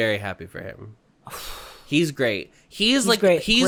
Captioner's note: sighs